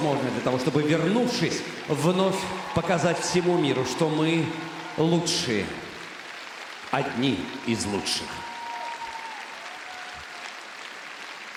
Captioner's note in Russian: аплодисменты